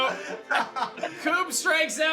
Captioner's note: laughs